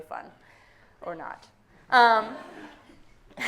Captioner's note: audience laughing